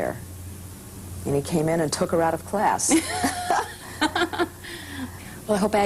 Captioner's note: laughter